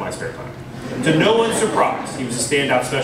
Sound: laughter

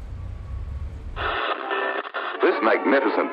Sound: radio static

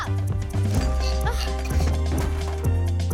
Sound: grunting

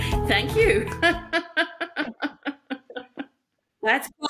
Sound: laughs

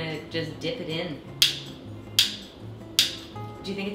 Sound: lighter sound

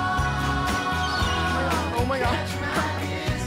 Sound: seagull squawking

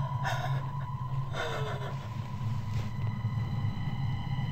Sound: sobbing; sighing

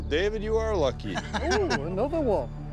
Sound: laughs

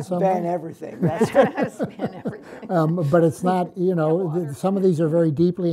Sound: laughs

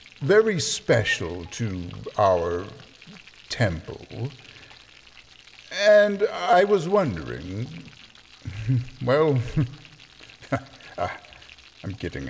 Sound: chuckle

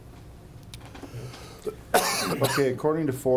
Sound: coughing

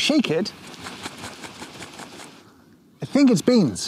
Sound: tin rustling

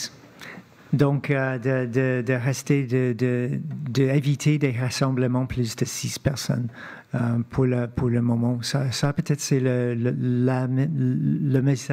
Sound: speaking French

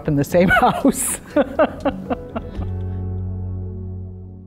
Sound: laughs

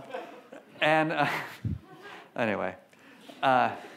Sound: laughs

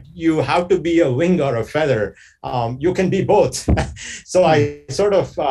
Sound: chuckles

